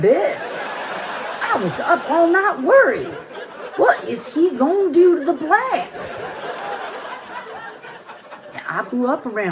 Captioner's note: audience laughter; audience laughter